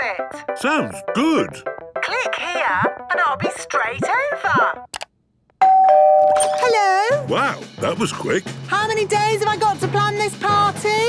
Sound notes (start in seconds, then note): 5.6 doorbell ringing